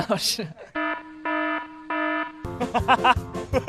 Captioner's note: incoming laughter